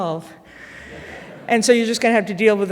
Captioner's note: audience laughing